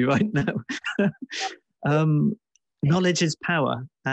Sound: chuckles

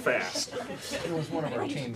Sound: indistinct chatter

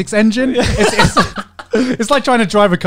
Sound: everyone laughs

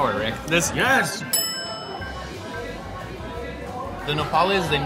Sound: bell dings

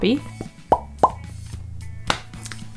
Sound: pop pop pop pop

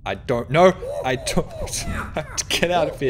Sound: laughs

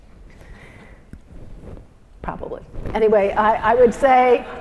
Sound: laugh

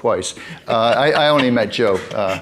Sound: man laughing

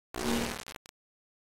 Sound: audio Glitch

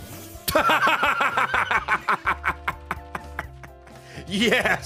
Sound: laughs

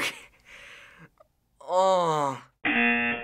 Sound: chuckles; groans; rejection buzzer

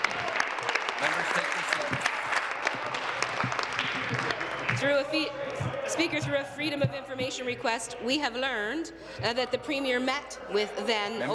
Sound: applause

